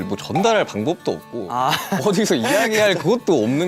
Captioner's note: haha